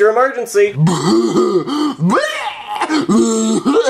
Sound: Jeffy mumbling

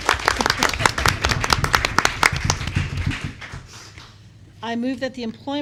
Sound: applause

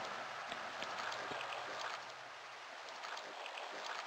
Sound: water noises

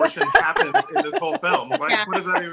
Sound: laughter

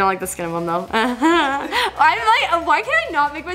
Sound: nervous laughter

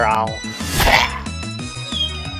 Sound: Chalk wheezes in pain

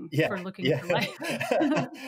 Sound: laughing

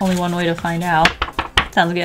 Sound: paper wobbling

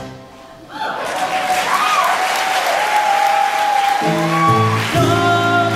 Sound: applause

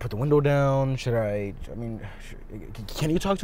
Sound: son stutters

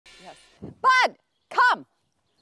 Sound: shouting

